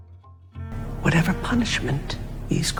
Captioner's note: voiceover